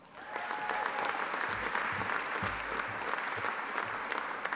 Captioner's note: audience applauding